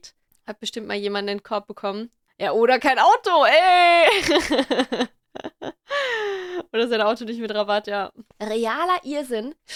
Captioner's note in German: lacht